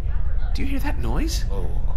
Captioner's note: rumbling noise